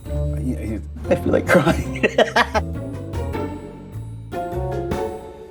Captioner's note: laughs